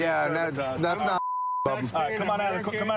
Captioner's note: chatter